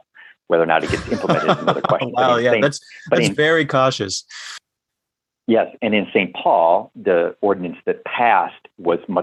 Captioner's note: laughter